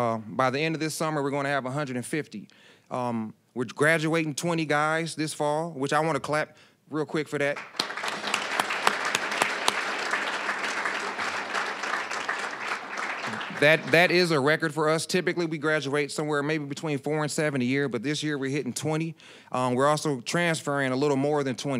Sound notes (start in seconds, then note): 7.5 applause